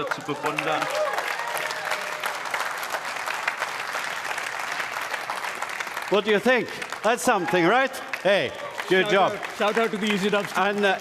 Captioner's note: speaking another language; applause